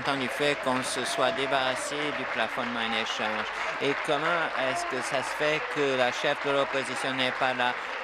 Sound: applause

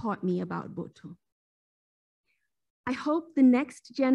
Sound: speaking foreign language

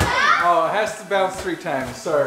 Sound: ball bounces

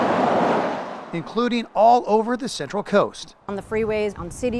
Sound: cars driving on road

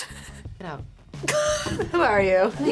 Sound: laughs

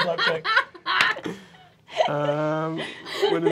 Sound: laughing

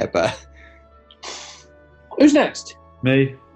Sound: exhales

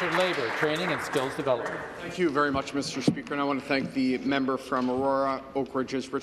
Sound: applause

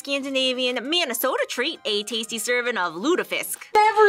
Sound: "Minnesotan" accent

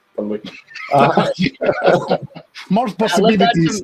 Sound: panelists laughing

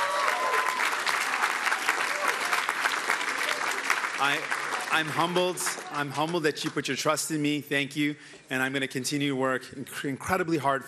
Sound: cheering

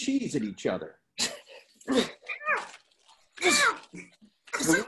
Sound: grunting and fighting noises

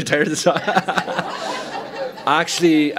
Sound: laughter

